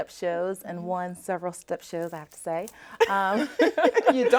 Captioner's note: laughs